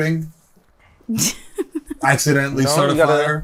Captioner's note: chuckles